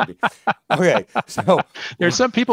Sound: laughs

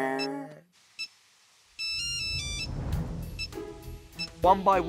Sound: hums original tune; multiple ringtones start playing

